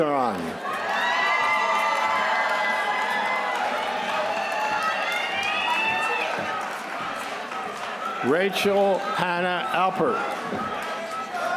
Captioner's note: applause